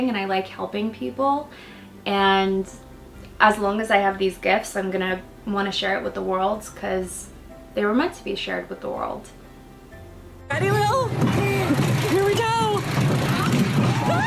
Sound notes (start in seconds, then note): 11.4 ride rumbling